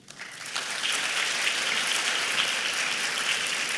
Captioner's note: applause